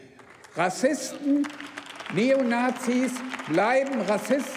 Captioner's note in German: Beifall beim BÜNDNIS 90/DIE GRÜNEN und bei der LINKEN